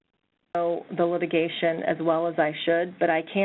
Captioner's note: voiceover